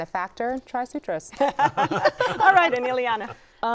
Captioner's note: laughter